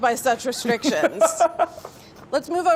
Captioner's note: Mark laughing